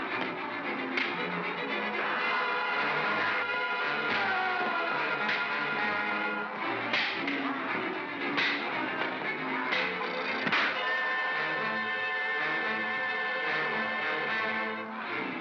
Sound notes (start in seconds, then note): 0.2 thump & crack; 2.0 suspenseful music; 4.1 Bogeymen screaming; 4.1 darts cracking; 4.1 suspenseful music; 10.4 pop; 11.8 suspenseful music